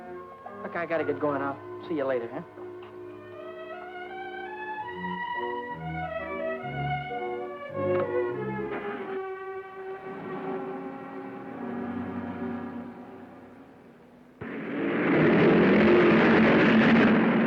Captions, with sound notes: Look, I gotta get going. I'll see you later, huh? (orchestral music) (car revving) (cars revving)